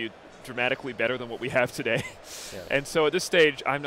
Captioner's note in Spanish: Risas